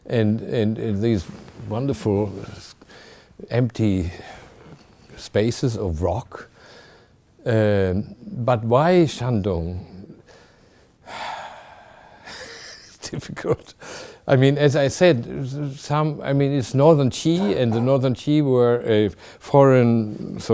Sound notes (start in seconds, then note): 10.9 sighing; 12.3 chuckling